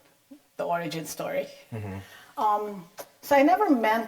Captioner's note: assents